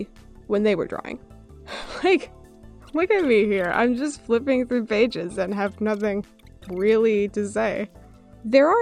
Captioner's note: laughs